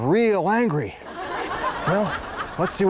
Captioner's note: audience laughs